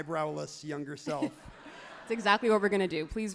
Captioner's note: everyone laughs happily